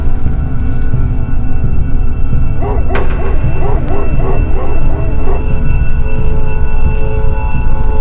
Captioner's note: dogs barking